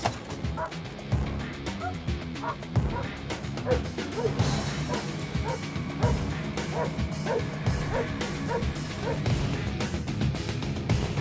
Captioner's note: dog barking